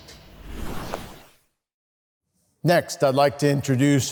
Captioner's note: whooshing sound effect